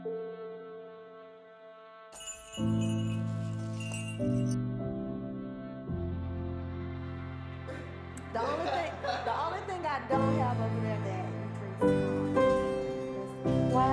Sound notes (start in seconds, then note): 2.1 bell jingling; 8.4 person in black laughs